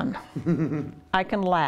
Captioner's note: laughs